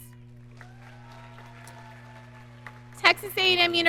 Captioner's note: audience cheering